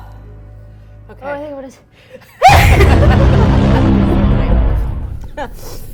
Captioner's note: sneezes